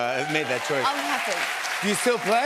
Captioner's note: cheers and applause